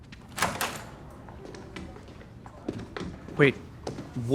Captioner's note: door clicks open